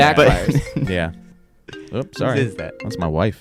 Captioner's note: iPhone ringing